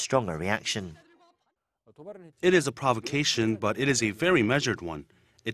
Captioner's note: Korean